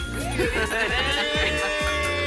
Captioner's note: glasses clink